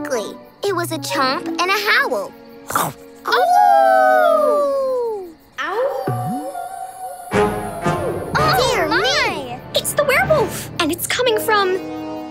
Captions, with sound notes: It was a chomp and a howl. [chomping and howling] [howling] - Oh my! - Dear me! It's the werewolf and it's coming from...